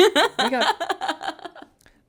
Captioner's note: laughs